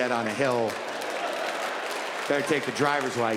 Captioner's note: audience laughing and clapping